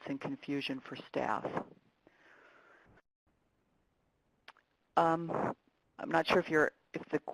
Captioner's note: pause